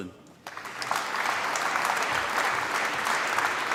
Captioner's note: applause